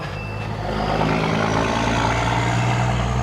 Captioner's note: loud truck passes